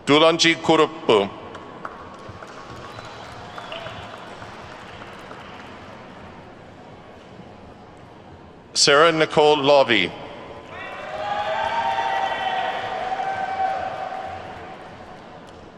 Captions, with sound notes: Dulanji Kuruppu. (attendees clapping) Sara Nicole Lavi. (attendees whooping and clapping)